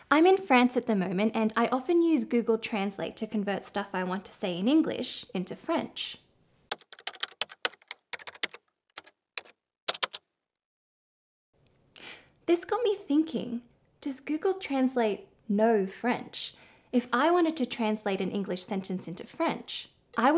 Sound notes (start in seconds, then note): 6.9 keys clacking